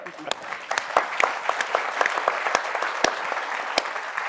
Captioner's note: audience applauds